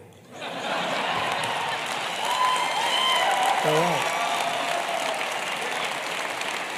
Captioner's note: laughter and applause